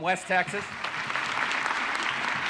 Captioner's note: audience applauding